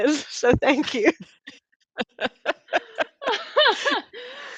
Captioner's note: all laughing